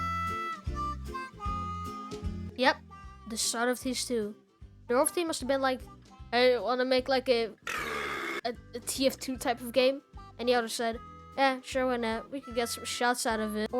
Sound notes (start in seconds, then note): 7.6 burp